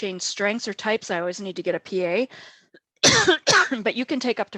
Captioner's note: coughs